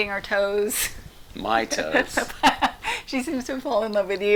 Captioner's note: laughing